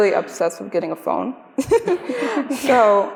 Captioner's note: laughter